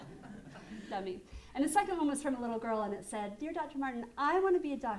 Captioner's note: laughter